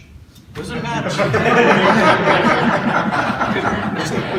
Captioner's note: loud laughter